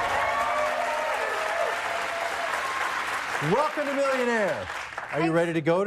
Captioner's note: cheers and applause